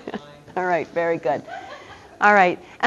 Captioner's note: laughing